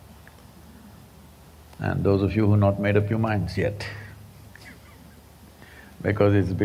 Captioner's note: laughs